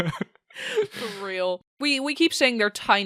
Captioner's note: laughing